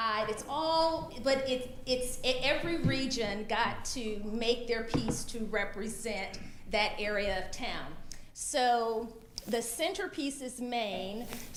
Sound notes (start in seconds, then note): none